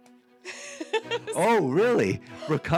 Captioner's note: laughing